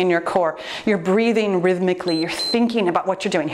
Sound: timer beeps

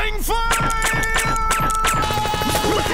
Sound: gunshots

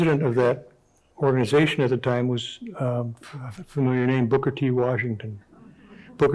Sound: none

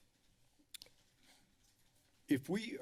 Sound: clicks tongue

